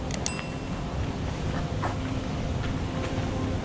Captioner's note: mouse click; bell dings